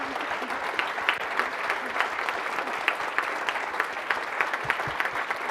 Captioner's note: audience applauding